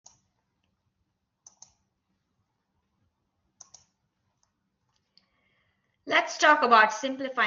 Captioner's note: silence